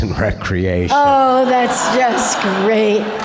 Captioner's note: audience laughter